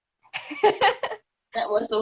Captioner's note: laughing